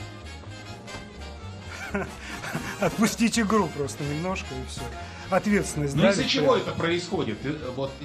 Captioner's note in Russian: смех